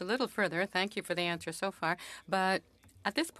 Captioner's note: speaking French